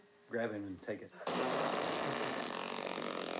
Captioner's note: blows raspberries